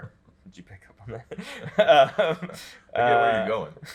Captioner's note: chuckles